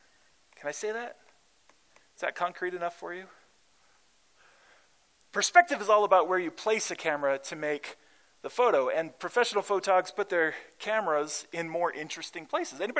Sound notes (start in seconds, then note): none